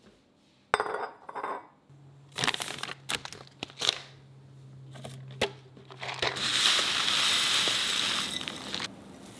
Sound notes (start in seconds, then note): 0.4 bottles clinking; 2.3 wrapper crinkling